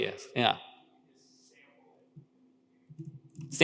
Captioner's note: speaker speaks faintly